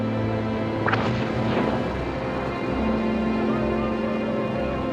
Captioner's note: engines firing